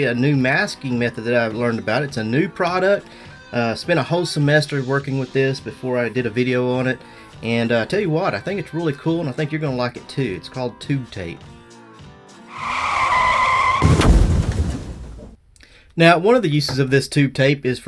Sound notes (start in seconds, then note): 12.4 screeching tires; 12.4 car crashing